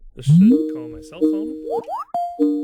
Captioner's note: cell phone ringing